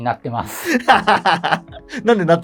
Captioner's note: laughing